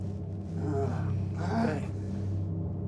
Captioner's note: groans